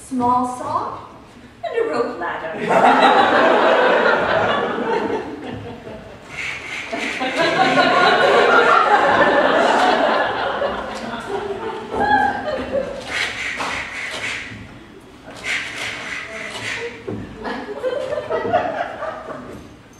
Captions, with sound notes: A small saw and a rope ladder! (sawing noises)